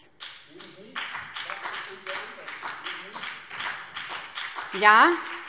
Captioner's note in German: Beifall : Eben nicht!